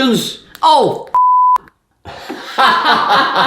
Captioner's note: beeps; mom and dad laugh